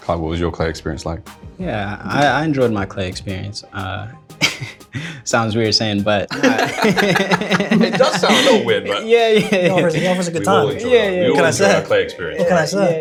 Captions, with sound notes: Cuyler, what was your Clay experience like? Yeah, I enjoyed my Clay experience. -[chuckles] Sounds weird saying, but… -[laughter] -Does sound a little weird, right? -Yeah. -Was a good time, what can I say. -We all enjoy our Clay experience.